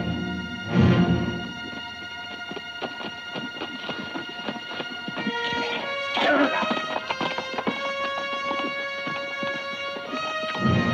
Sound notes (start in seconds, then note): 5.9 Delgadito speaking foreign language; 7.5 dramatic music